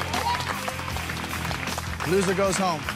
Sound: group clapping and cheering

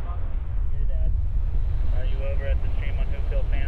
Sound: muffled voices talking over marine radios

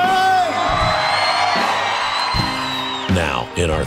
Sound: crowd cheers

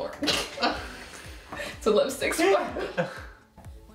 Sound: laughing

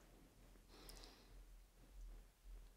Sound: breathes in; breathes in more, through nose

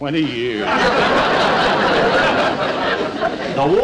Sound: audience Laughing

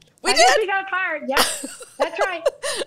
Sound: laughs

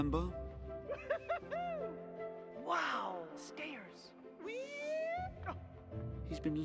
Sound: laughing

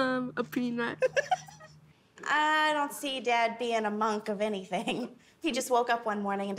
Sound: laughs

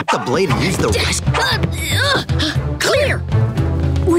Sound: grunting

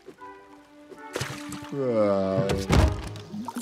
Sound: Maui groans; water splashes

